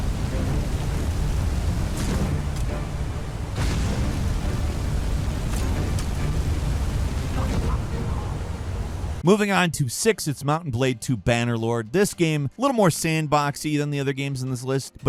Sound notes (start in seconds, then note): 3.5 flames whooshing